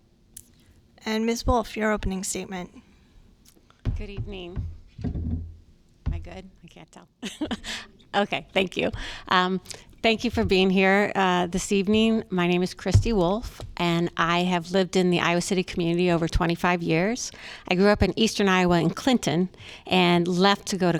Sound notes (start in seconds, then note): 7.2 laughter